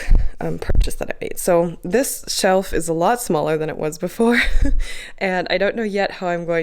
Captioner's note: laugh